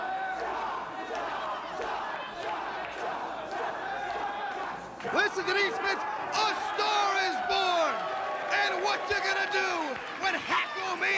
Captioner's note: crowd chatter